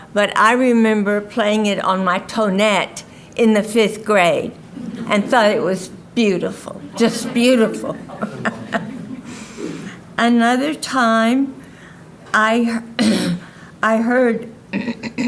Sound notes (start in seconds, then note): 8.3 laughing